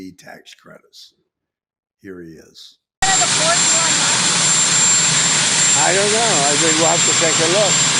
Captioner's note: engine revving